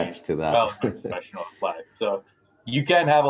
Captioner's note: laugh